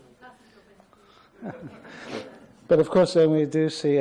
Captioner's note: audience laughs